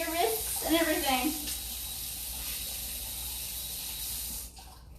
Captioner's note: water gushing